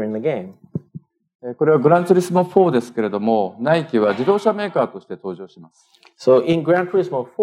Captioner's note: speaking japanese